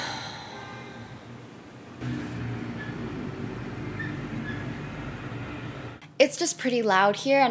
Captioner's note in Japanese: もっと車の音